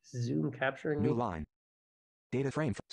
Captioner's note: voiceover